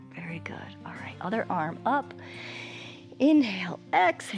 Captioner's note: exhales; inhales